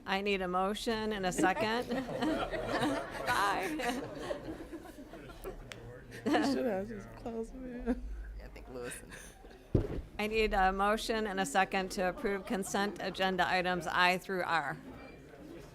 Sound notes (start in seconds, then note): 4.2 chuckling